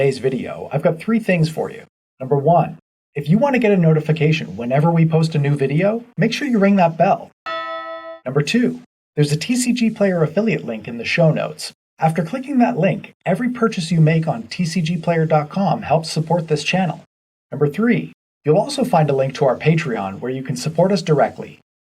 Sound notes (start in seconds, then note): 7.4 bell rings